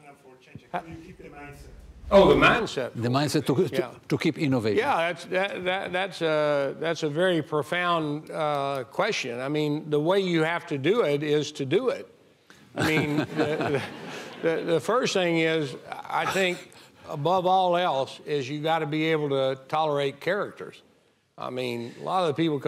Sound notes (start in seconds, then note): 12.8 audience laughing